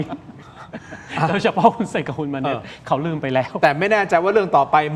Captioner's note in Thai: เสียงหัวเราะ